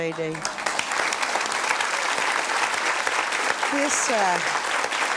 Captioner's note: audience applauds